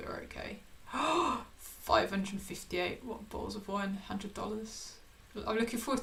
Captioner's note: gasps